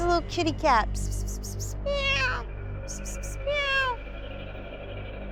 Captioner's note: imitates meowing